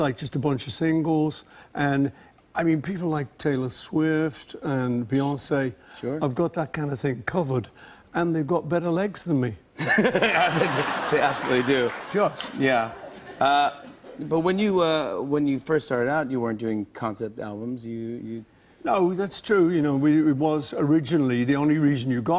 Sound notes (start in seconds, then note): 9.8 laughter